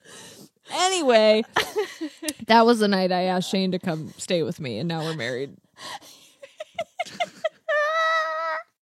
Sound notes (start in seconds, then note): 6.3 laughs